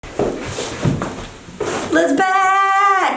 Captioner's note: loud scuffing